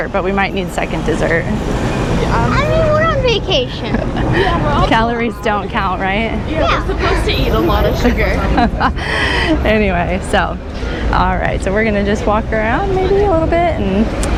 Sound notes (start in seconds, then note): 8.5 laughter and gasps